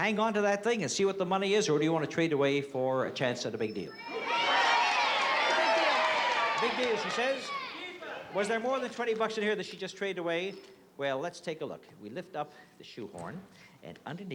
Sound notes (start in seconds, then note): 3.9 crowd shouting